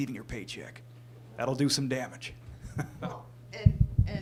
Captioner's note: laughs